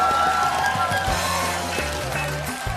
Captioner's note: cheers and applause